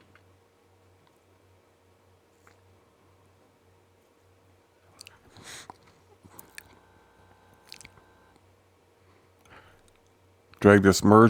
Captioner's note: silence